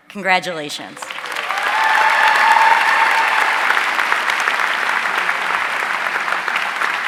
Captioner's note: audience cheering and applauding